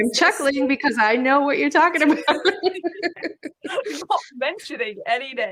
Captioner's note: laughs